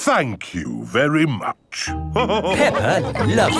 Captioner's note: all laughing